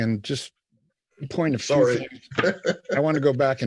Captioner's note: laughs